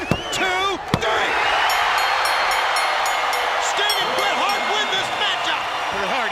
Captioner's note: bell dings